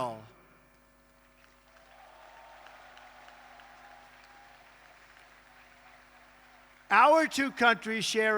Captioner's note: applause